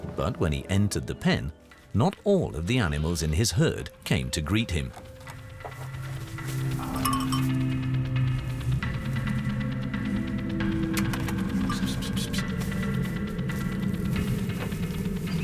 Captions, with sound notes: But when he entered the pen, not all of the animals in his herd came to greet him. [farmer calls goats]